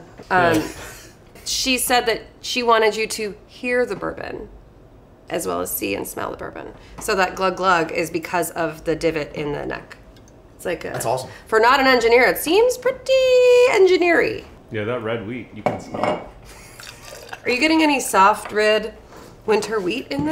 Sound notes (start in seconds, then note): 16.4 chuckles